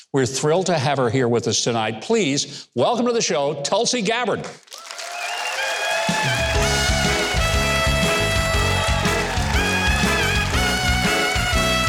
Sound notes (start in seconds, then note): 4.6 audience applauding; 6.0 upbeat music